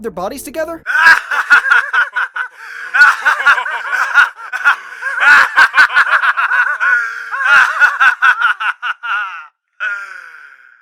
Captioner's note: Papa and the rest of APE laughing